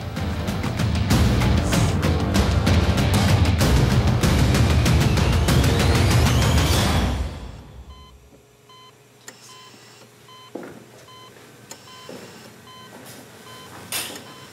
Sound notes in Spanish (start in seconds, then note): 7.9 Sonido del monitor